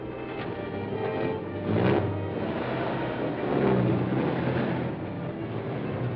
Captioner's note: suspenseful music; truck whirring